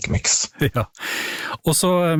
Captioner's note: chuckles